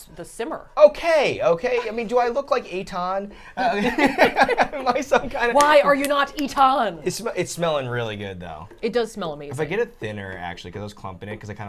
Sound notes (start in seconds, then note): 3.6 all laughing